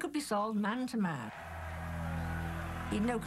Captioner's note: cheering